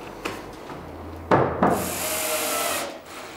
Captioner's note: rattling, drill whirring